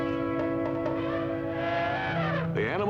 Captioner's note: elephant trumpets